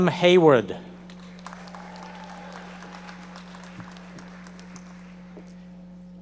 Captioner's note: audience members applauding